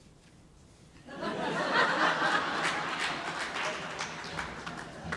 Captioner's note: audience laughing